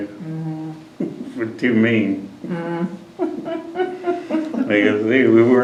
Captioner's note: laughter